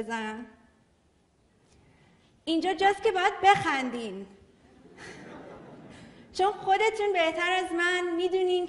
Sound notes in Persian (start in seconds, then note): 4.7 خنده‌ی حضار